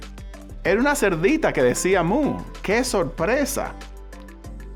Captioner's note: speaking Spanish